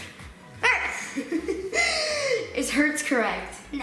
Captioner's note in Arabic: يضحك